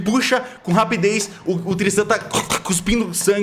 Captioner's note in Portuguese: Engasgos